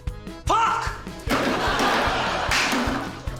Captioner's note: laughter